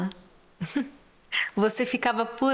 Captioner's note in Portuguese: risos